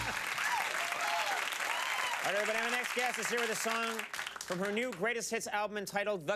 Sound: cheers and applause

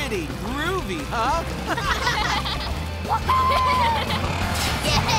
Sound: laughing

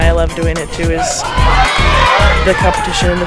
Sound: crowd cheering

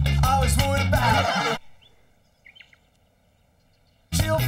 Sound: crowd mocking

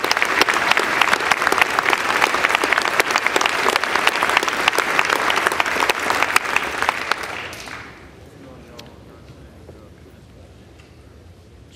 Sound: applause

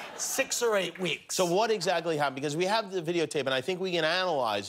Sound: laughter

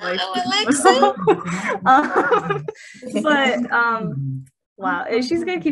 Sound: laughing

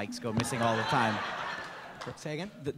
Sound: laughter

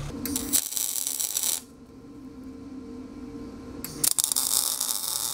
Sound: welding electrode sparking

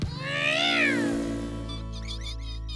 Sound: engine Revs; mice Squeak

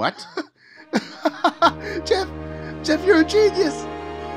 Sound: laughs

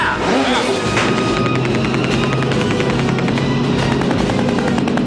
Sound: jet ski engine roaring

